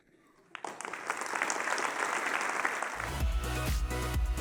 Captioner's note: applause